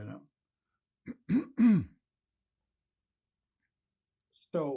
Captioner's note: clears throat